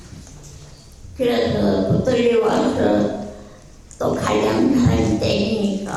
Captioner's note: speaking in foreign language